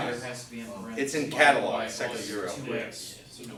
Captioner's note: students discussing